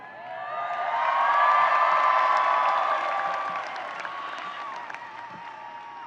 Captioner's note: audience cheering and applauding